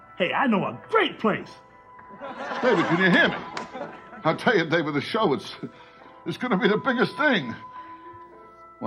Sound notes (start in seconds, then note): 2.0 audience laughs